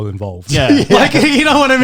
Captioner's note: both chuckling